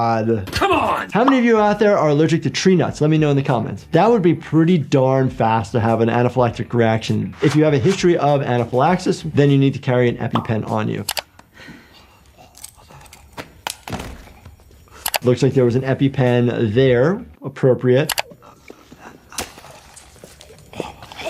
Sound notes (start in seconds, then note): 13.4 EpiPen taps; 18.3 labored breathing